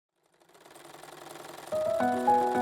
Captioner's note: sewing machine clattering; light piano music